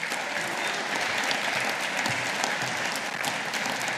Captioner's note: audience applauding